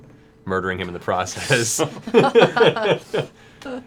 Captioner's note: laughter